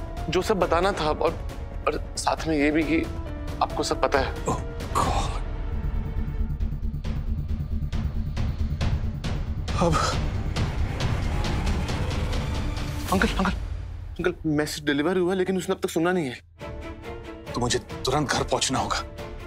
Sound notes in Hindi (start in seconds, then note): none